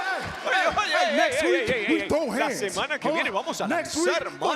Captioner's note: applause